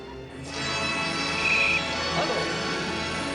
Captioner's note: whistle blowing